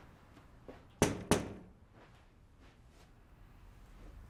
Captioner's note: knocks